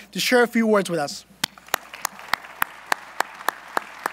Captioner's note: applause